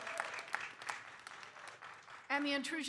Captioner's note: audience applauding